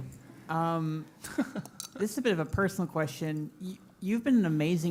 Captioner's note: laugh